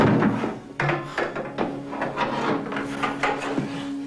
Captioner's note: banging of tools